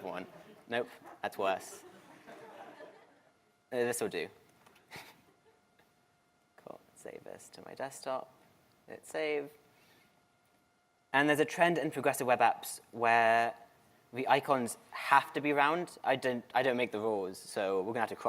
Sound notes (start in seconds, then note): 1.6 laughter